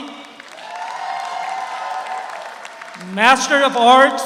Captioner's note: audience applauds; audience cheers